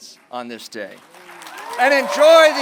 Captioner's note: applause